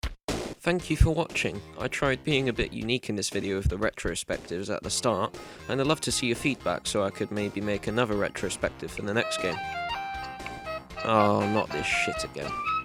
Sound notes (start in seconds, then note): 9.2 arabic Nokia ringtone